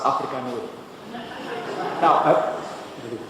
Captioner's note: laughter